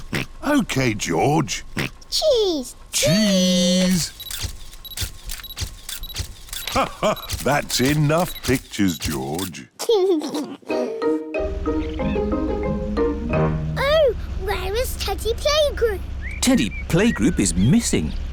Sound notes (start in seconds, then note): 0.0 oinks; 6.5 laughs; 9.8 giggles